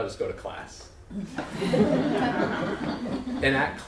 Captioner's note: laughter